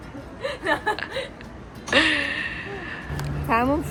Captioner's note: just kept laughing XD